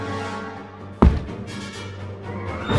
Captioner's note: thump